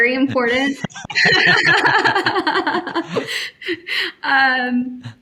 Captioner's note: all laughing